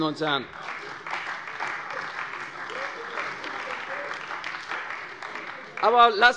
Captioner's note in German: Beifall bei der CDU